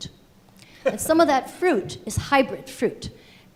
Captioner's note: laughing